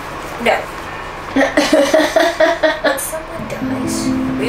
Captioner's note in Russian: смех